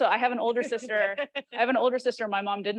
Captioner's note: chuckling